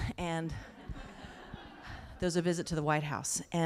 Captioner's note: laughter